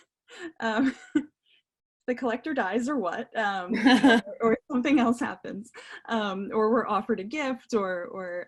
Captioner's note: laughter; laughing